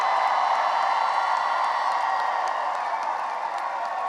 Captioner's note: cheering and applause